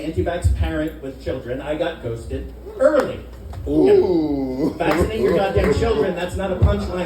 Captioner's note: audience Ooohs, laughter